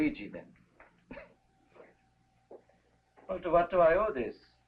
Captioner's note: Pepe chuckling